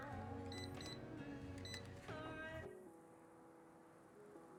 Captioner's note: cash register beeping